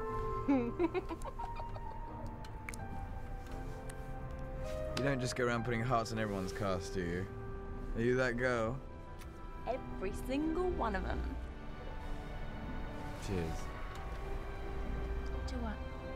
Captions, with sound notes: Oh. [giggling] You don't just go around putting hearts on everyone's cast, do you? Are you that girl? Every single one of them. Cheers.